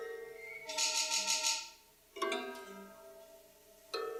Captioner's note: plates rattling